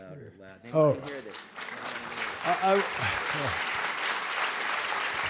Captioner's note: applause